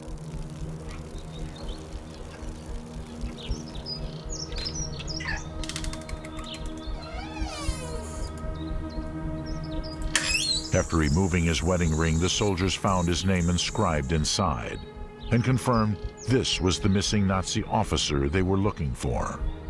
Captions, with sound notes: (water spraying) (door creaks) After removing his wedding ring, the soldiers found his name inscribed inside, and confirmed this was the missing Nazi officer they were looking for.